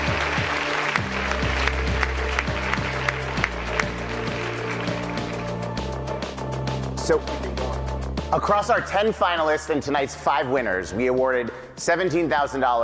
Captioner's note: applause